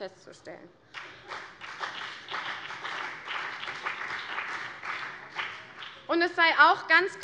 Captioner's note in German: Beifall CDU und BÜNDNIS 90/DIE GRÜNEN